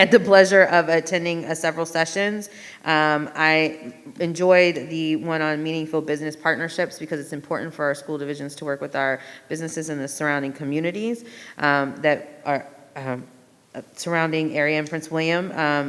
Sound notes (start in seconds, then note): none